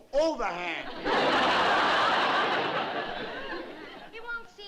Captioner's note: laughter